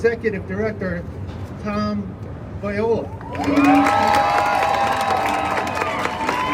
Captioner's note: crowd cheers